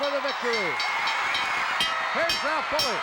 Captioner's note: audience cheering; bell ringing